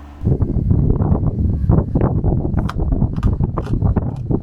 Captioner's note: wind rumbling